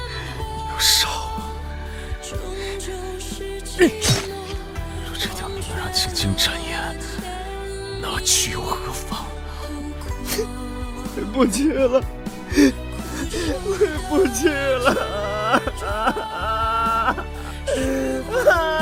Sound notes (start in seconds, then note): 15.6 breaking Down And Crying